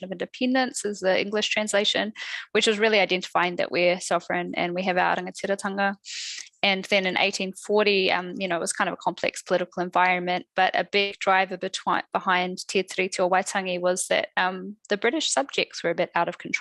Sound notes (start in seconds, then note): 5.3 non-english speech; 12.0 non-english speech